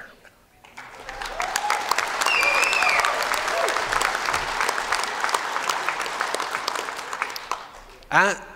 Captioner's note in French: Applaudissements